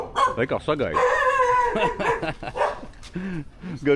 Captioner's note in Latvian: smiekli